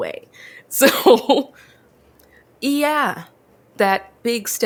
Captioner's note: laughs